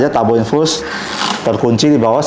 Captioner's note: lock spinning sound